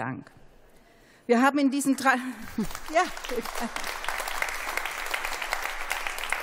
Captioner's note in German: Beifall